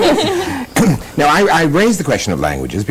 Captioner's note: laughter